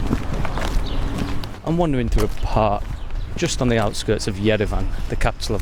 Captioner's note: footsteps